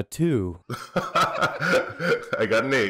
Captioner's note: laughter